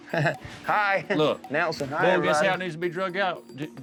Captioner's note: chuckles